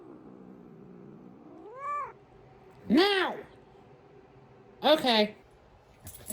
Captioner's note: Caprice continues growling